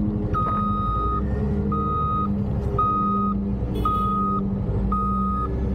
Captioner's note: loud beeping